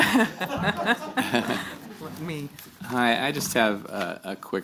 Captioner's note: laughter